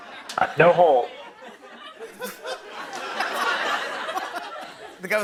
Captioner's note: laughter